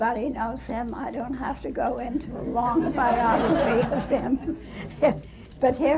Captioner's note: laughter